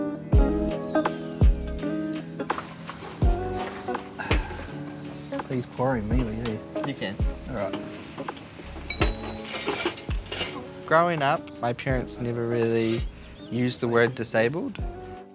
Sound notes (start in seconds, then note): 0.1 laid-back electronic music; 4.0 exhales